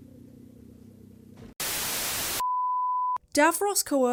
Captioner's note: static